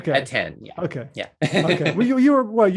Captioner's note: laughs